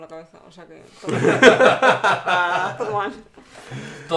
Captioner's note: laughs